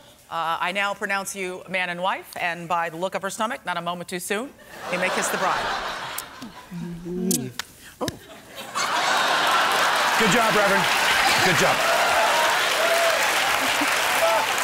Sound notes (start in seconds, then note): 7.1 butt slaps